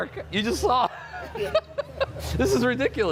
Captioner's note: laughs